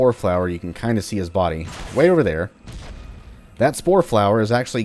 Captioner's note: fwoosh